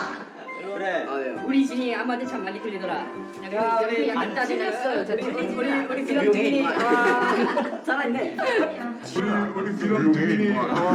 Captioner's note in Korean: 웃음